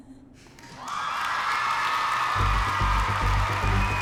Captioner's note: crowd cheering